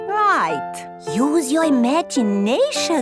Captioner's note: none